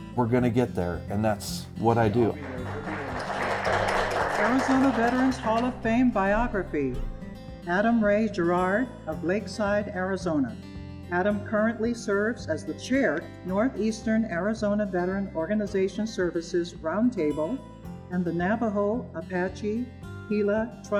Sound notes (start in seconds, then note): 1.9 attendees applauding